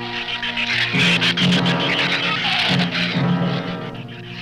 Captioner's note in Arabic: ثرثرة الزبابة